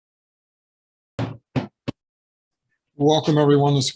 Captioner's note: sounding gavel